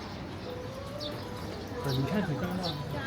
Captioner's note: crowd chattering